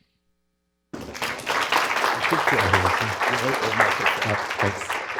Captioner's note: applause